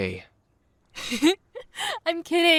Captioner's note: amanda giggles